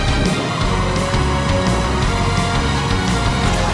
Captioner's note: Arctic Blast echoes